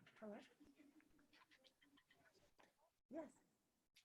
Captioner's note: background chatter